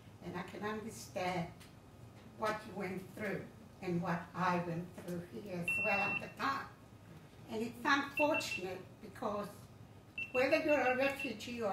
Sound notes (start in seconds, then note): 5.7 timer beeping